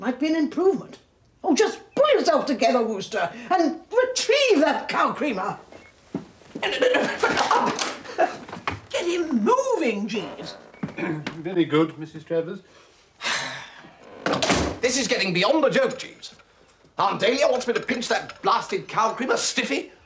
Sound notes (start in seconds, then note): 13.2 slGHS